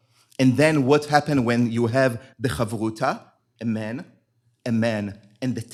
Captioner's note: hebrew